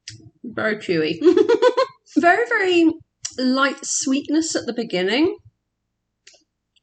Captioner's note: laughing